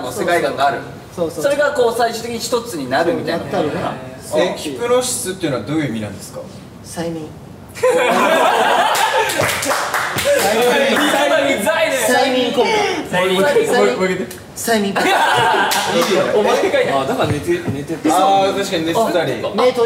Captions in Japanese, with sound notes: そうそう そうそうそう …みたいなことなのかな？ なったのかな？ へぇ～ そう （笑い） おぉ～ （笑い） 今のウザいね！ 催眠？ 催眠？ 催眠 ごめん もう1回言って （笑い） いいよ あぁ～ 確かに寝てたり… あっ そういうことか